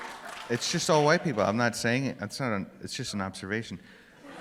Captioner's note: laughter